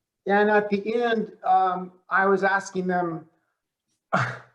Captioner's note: chuckles